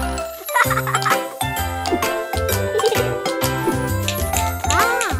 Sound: kids laughing and tapping

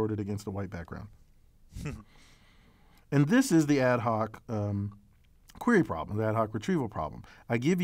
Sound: laugh

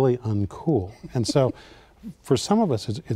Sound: laughing

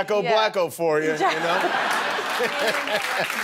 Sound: laughing; applause

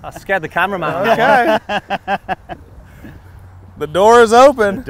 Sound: laughing

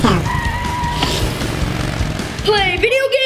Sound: motorcycle engine revving

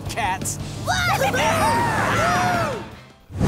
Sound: cheering

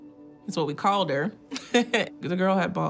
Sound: chuckles

